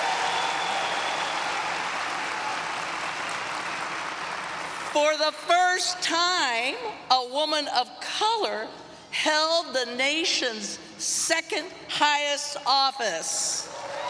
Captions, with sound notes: [applause] For the first time, a woman of color held the nation's second highest office.